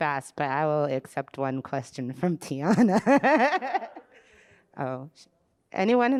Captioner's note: laughs